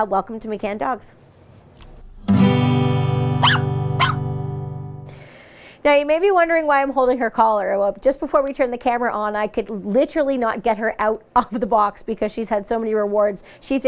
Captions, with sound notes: Welcome to McCannn Dogs. (barking) Now, you may be wondering why I'm holding her collar. Well, just before we turned the camera on, I could literally not get her out off of the box because she's had so many rewards. She thinks this is the most fun thing ever